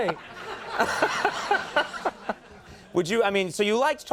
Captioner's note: Conan and audience laughs